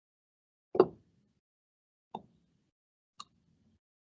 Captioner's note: mouse clicking